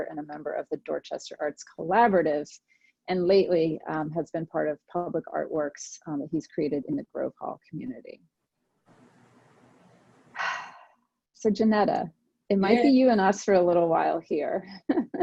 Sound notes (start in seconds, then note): 10.4 breathes heavily; 14.8 laughs